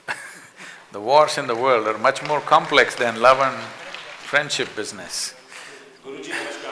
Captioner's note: laughs; applause